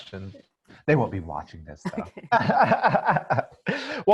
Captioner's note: laughs